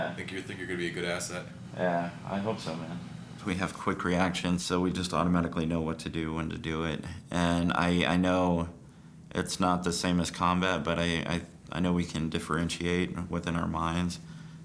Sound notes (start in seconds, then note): none